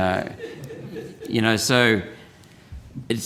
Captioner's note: scattered laughter